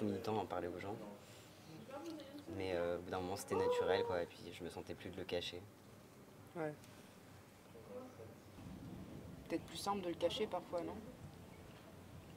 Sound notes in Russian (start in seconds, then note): none